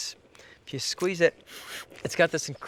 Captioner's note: sniffing